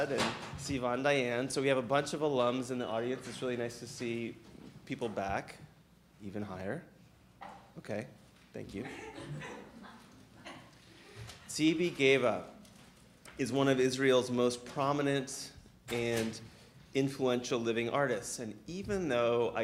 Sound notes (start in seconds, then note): 9.1 audience laughing